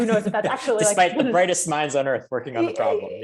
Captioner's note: laughs